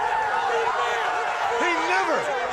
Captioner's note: crowd yelling